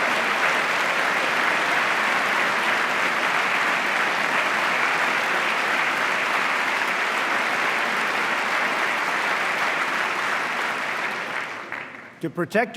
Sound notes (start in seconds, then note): 2.8 applause